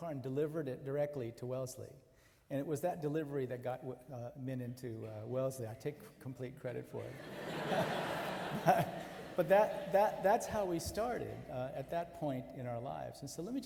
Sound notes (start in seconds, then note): 7.1 audience laughing